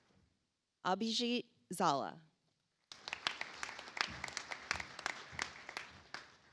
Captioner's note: audience applauds